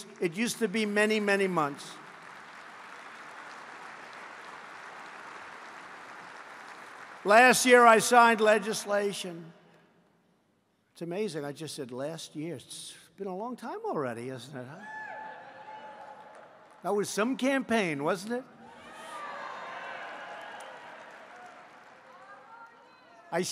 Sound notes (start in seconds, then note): 2.5 applause; 15.6 applause; 18.8 applause